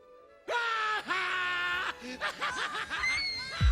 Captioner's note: Alan laughs